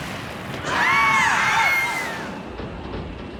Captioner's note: screaming